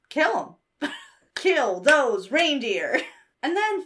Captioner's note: laughs; claps